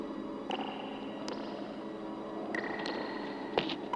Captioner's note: water dripping